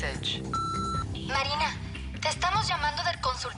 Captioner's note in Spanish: Bip